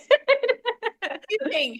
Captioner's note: laughter